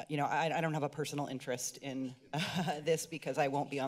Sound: laughter

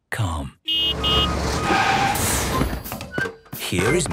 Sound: honking, engine revving

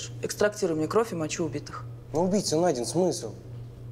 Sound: none

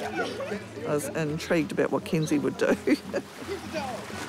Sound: laughs; chuckles

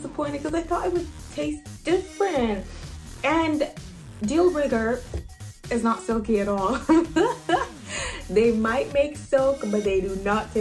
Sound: laughs

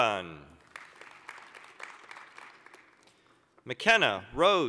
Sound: applause

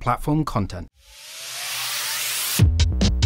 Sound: whirring of the logo

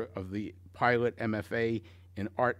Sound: none

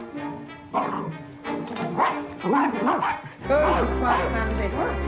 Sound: snarling

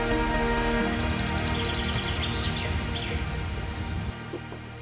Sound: birds chirping

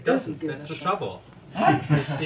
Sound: laughter

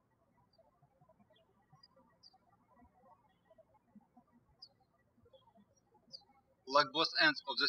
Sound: birds chirping

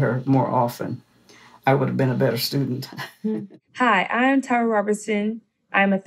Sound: laugh

